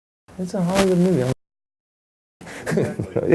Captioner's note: murmurs and laughs